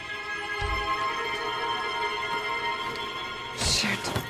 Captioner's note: Door opens